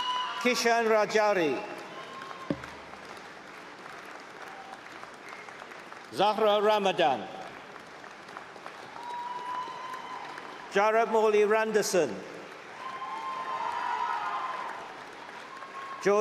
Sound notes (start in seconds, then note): 4.9 applause; 12.4 cheering